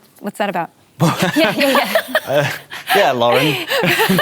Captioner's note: laughter